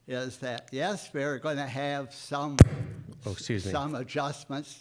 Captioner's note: loud mic noise